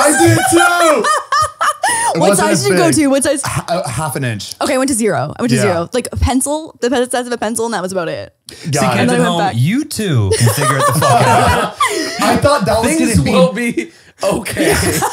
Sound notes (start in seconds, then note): 0.8 laughing; 10.0 they laugh